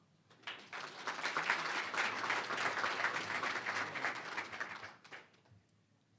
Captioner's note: applause